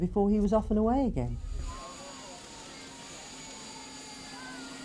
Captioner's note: crowd cheering